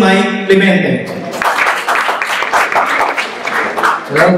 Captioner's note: applause; palakpakan